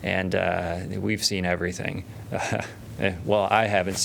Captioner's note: laughter